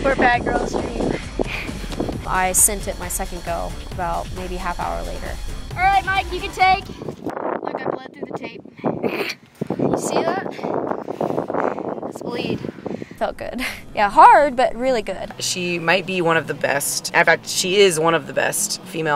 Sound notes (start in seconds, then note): 8.9 chortles